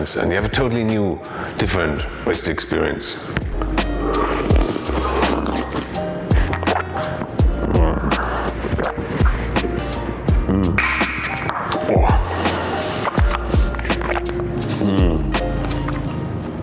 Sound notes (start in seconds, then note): 4.3 slurping